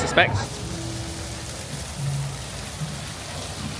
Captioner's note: water trickling